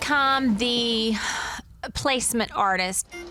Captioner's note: sigh